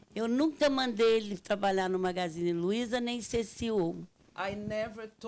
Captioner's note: speaking Portuguese